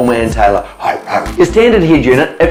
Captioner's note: grunt, grunt